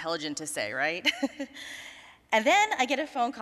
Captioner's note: all laughing